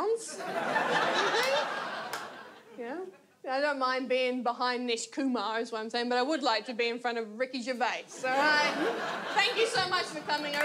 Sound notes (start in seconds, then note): 0.4 audience laughs; 8.2 audience laughs